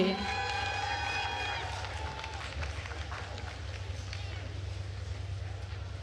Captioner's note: attendees cheering and applauding